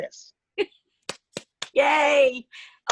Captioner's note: clapping